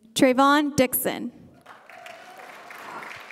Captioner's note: applause